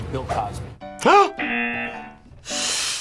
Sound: laughs; gasps; buzzer rings

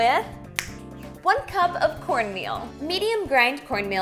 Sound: snaps fingers

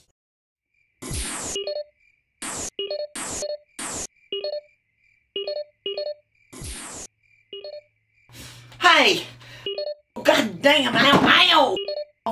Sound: several text and email sounds

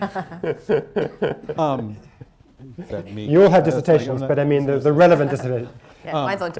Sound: laughter

